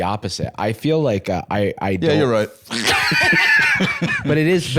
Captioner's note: laughs